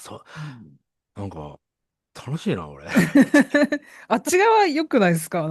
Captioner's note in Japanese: 笑い